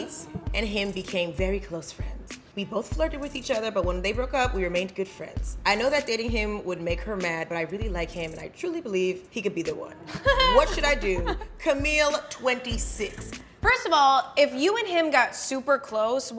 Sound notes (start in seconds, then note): 10.1 laughing